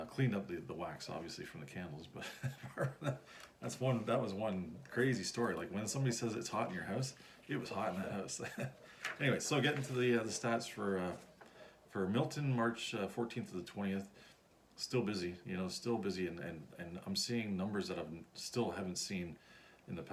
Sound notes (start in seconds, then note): 2.2 laughs; 7.6 chuckles